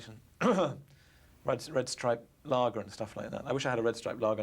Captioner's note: clears throat